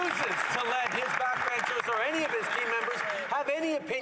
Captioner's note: some Applause